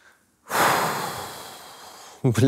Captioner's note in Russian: сильный выдох